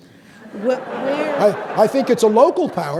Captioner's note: audience laughing